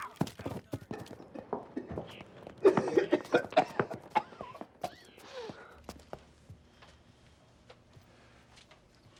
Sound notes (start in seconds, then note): 2.6 coughing